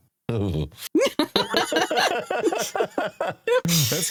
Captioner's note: laughing